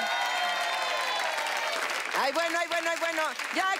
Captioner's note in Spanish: Aplausos